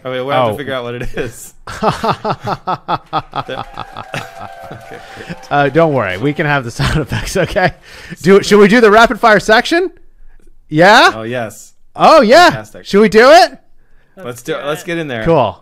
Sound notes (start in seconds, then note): 1.6 laughter; 3.0 cheering